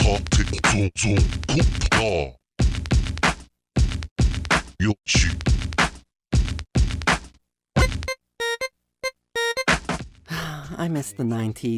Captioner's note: sigh